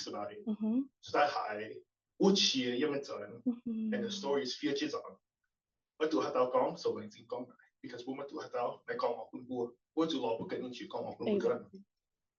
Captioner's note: non-english